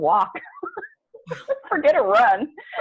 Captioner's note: laughs